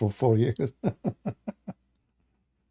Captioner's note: Ketawa